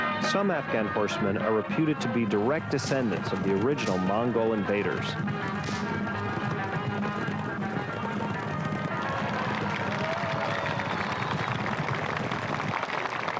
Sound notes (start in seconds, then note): 5.9 horses clip-clopping; 9.6 crowd applauding